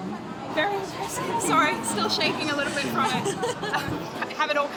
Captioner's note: chuckles